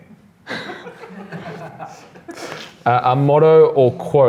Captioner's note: laughs